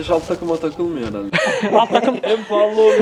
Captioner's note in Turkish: Gülüşmeler